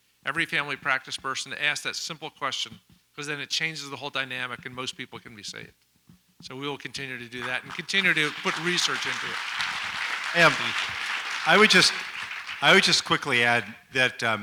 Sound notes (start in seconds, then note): 9.9 audience applauds